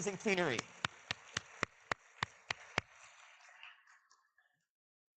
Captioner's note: audience clapping